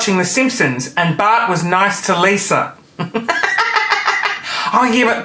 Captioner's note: laughing